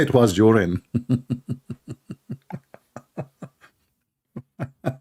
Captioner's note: Ketawa